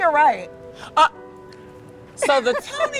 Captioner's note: laughs